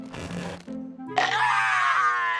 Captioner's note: screams